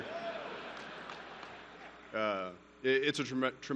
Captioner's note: laughter